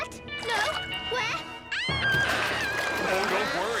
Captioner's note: Max shrieking